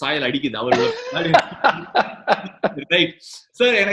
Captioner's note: laughs